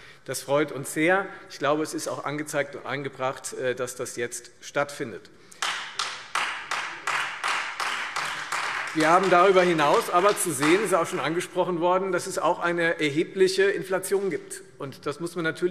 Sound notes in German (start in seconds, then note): 5.5 Beifall Freie Demokraten